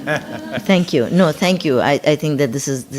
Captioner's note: audience laughing